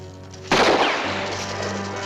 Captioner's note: gunshot